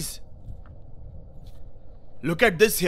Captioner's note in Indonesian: Suara berjalan